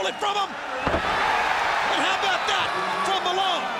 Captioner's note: audience cheers